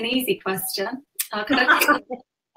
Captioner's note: laughs